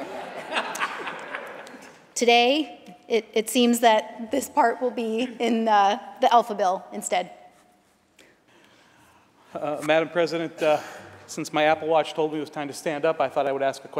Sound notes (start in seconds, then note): 2.0 laughter